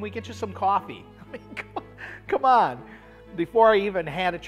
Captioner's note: laughs